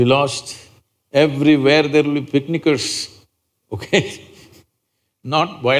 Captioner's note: laughs